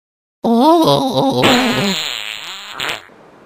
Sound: farting

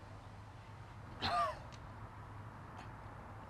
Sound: coughing

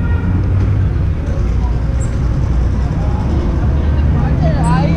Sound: traffic driving

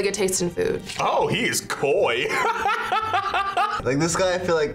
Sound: laughs

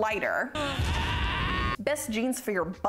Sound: monster screams

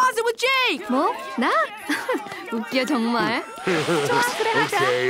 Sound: speaking a foreign language

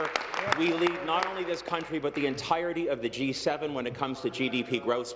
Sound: applause

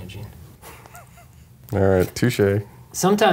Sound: laughs

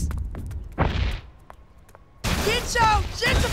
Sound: thunderous stomping

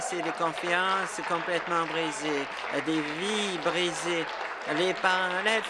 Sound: applause

